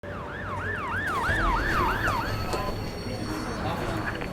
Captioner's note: ambulance siren wails